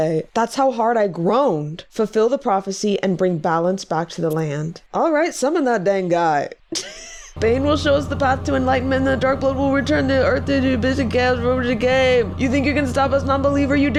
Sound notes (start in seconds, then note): 7.4 ominous music; 11.6 slurring